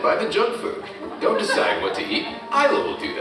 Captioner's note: audience chuckling